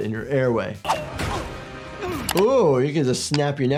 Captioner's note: Invincible groaning